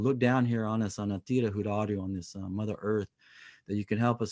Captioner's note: speaking native language